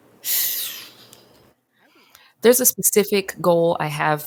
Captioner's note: sharply exhales